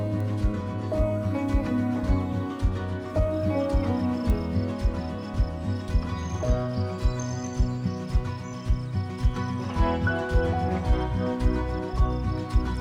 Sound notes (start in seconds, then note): 7.2 crickets chirping